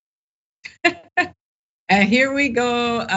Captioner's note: laugh